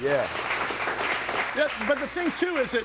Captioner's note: audience applauding